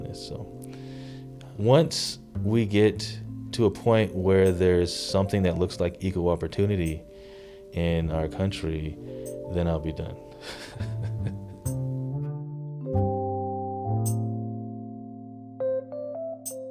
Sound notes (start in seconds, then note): 10.4 laughing; 11.4 gentle music